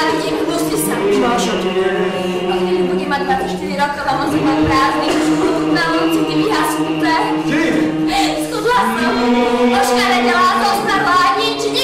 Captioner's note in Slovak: brumendo zosiluje, repliky pokračujú v úzadí